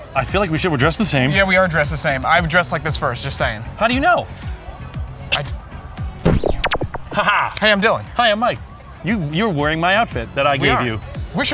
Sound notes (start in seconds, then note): 5.9 neuralyzer zaps; 6.0 neuralyzer clicks